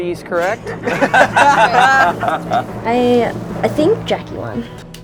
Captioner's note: laughter